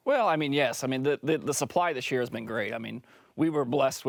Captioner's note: French